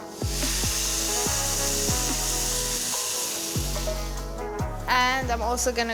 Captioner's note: soft music; herbs simmering